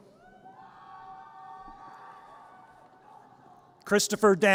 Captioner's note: audience cheers